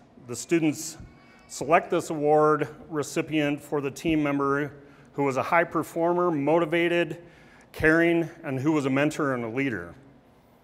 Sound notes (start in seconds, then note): none